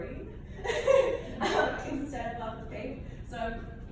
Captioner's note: laughs